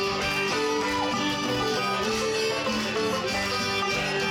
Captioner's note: audience cheering